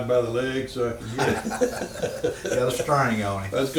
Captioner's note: both laughing